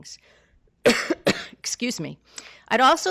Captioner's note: coughs